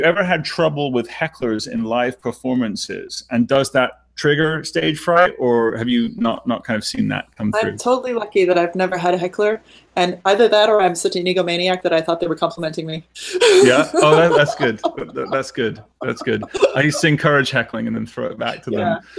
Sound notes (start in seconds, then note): 13.4 laughing